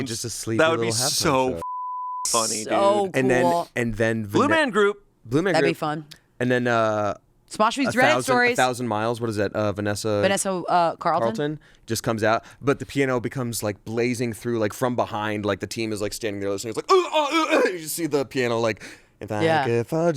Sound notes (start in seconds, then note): 1.6 beep; 16.9 grunts